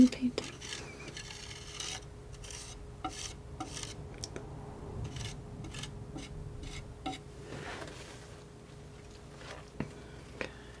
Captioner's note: scratching